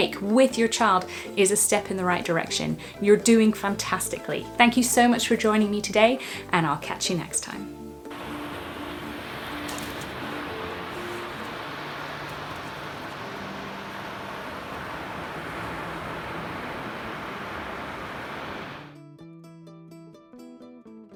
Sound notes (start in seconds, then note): 8.5 gentle music; 8.5 waves crashing; 9.8 shutter clicking; 9.8 waves crashing; 14.7 gentle music